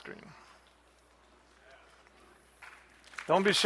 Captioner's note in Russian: голос из зала; аплодисменты